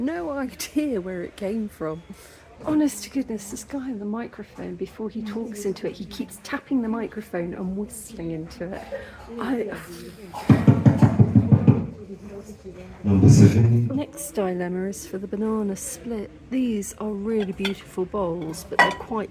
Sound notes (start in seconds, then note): 10.6 very loud tapping